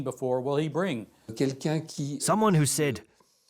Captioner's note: non-english speech